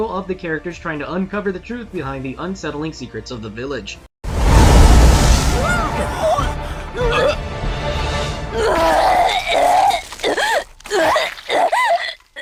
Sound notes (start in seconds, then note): 8.5 vomitting; 10.6 girl vomiting continues